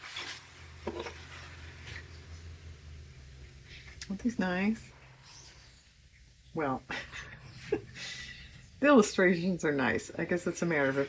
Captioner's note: laughs